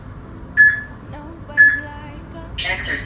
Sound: peep

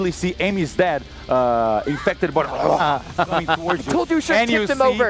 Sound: grunting noise

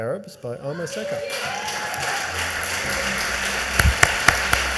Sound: audience applauds

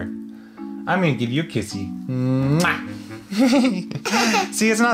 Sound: both laugh

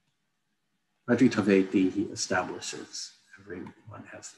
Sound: non-english speech

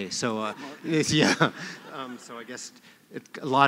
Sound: laughter

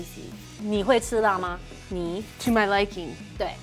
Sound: speaking in mandarin

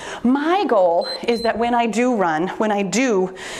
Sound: timer beeps

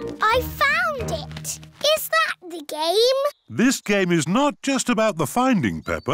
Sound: none

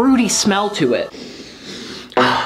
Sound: sniffs

